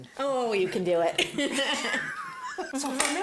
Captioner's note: laughter